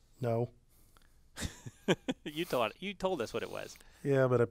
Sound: laugh

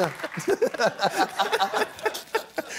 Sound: laughter

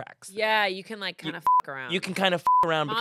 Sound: beep

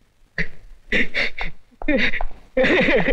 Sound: sobbing; crying

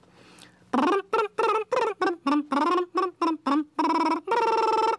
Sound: imitates banjo picking tune

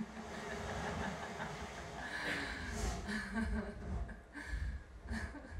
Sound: dark laughter

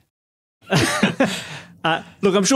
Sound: group chuckles

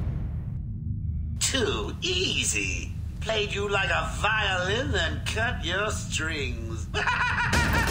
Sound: laughing

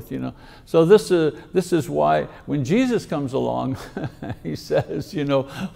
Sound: chuckles

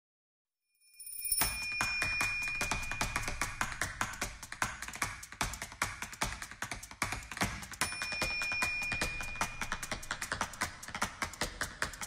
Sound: clacking shoes in rhythm

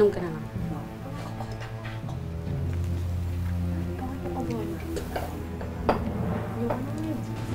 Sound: grils murmuring

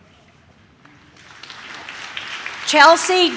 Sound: audience claps

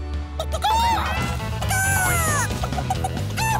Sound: cackling

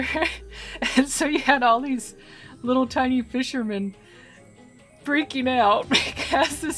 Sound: laughing

